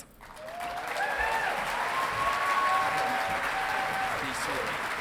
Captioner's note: audience clapping